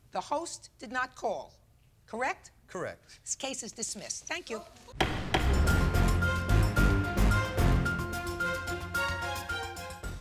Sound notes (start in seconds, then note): 5.0 gavel pounds; 5.0 dramatic music